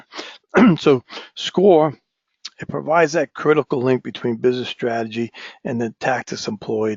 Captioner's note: cough